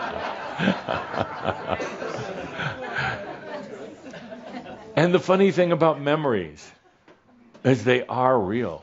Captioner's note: laughter